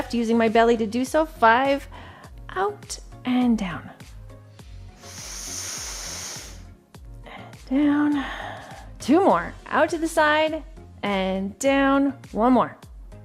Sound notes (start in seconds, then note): 4.8 inhales